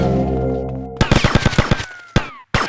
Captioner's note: gun fires